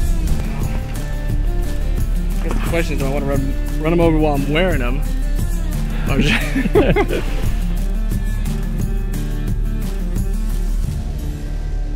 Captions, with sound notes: (upbeat music) The question is, do I want to run them over while I'm wearing them? (chuckles) (upbeat music)